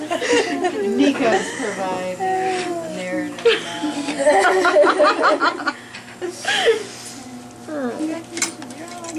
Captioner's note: students laugh; laughter